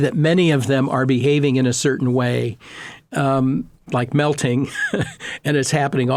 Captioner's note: laughing